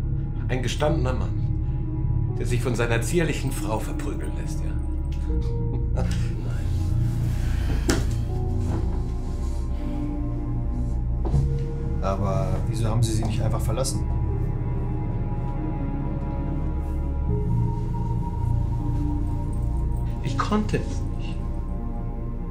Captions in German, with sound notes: Ein gestandener Mann, der sich von seiner zierlichen Frau verprügelt lässt? (lacht) Nein. Aber wieso haben Sie sie nicht einfach verlassen? Ich konnte es nicht.